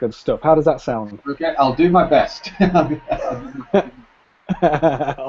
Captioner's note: both laugh